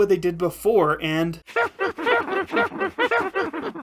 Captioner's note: Minecraft witches laughing